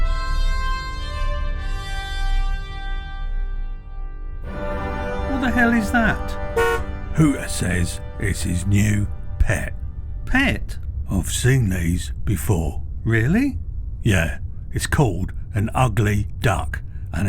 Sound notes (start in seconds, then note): 6.5 hooter honks